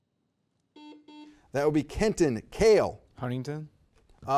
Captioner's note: buzzer beeps